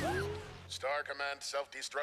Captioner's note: beeping